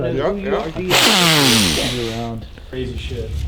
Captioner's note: sniffs